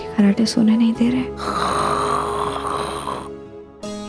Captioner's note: snoring